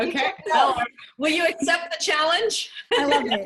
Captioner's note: laughter